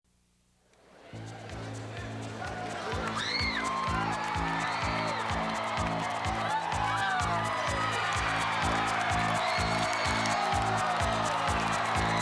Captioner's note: crowd cheering